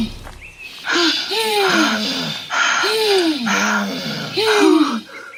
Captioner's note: Mel Exhausting Breath